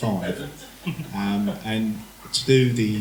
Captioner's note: laughter